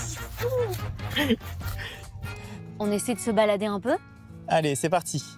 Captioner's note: laughs